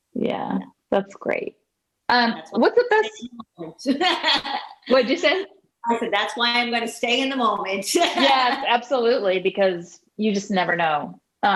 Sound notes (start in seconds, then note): 3.9 laughing; 7.9 laughing